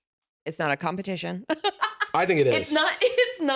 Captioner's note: laughs